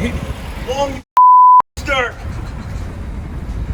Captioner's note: beep